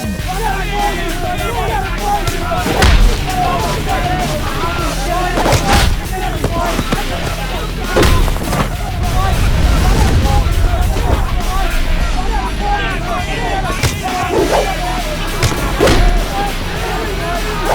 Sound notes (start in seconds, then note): 0.2 gangsters clamoring; 3.3 blows thudding; 6.1 gangsters clamoring; 8.9 air whooshing; 17.5 air whooshing; 17.5 blows thudding